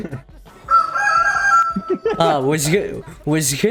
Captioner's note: rooster crows